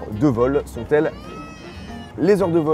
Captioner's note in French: Cri de bébé